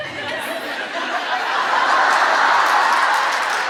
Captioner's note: laughter